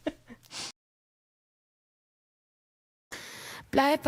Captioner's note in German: gelächter; schnauben